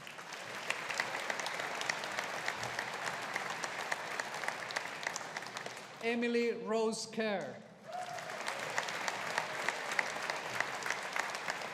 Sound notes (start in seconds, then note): 0.0 audience applauding; 7.8 audience applauding